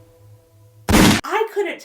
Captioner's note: gun pops